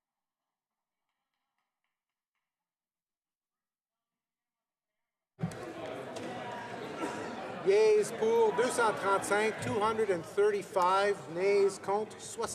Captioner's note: some Applause